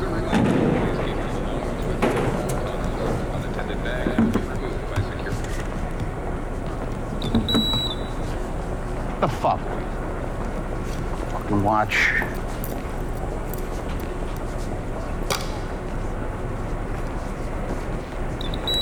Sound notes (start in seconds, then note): 0.2 baggage shuffling; 0.2 loud speaker instructing; 7.6 machine beeping; 12.0 watch rattling; 15.5 watch clicking; 18.3 machine beeping